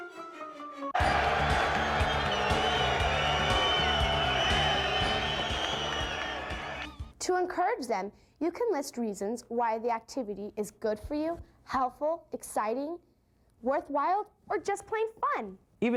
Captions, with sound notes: (crowd cheering) To encourage them, you can list reasons why the activity is good for you, helpful, exciting, worthwhile, or just plain fun.